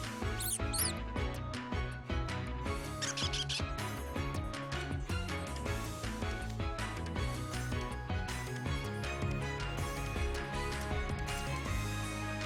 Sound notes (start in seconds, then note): 2.9 squeaks